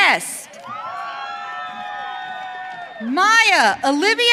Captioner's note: audience cheering